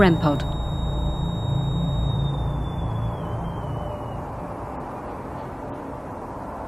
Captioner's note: energy detector device beeping and whistling